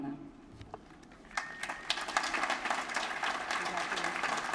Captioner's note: applause